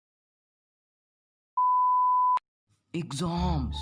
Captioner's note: beep